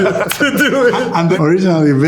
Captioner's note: both laughing